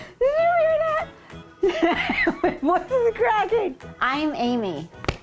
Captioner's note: laughing